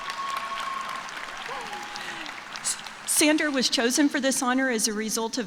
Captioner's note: cheers and applause